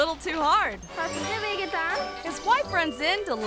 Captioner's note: person speaks in foreign language